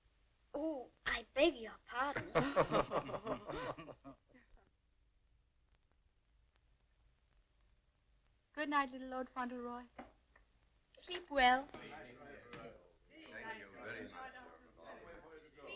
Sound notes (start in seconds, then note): 2.1 laughing